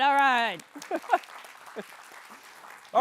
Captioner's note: applause; laughs